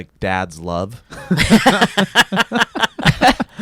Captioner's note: laughs